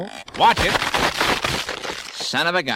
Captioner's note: creaking, boards breaking